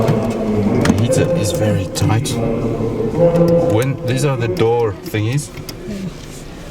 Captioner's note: electric windows